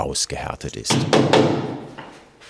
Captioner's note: hammering